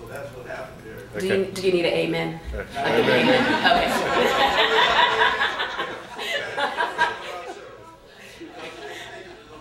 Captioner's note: laughter